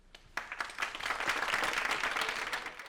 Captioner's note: applause